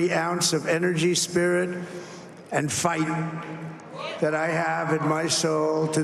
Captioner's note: cheers and applause